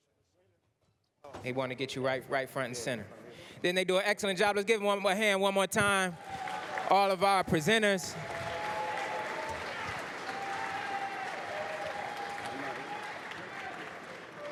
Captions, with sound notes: >> They want to get you right, front and center. Then they do an excellent job. Let's give him a hand one more time. [APPLAUSE] All of our presenters. [APPLAUSE, CHEERS]